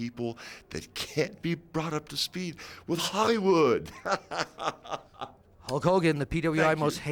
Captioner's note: laughs